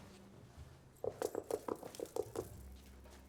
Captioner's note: knocking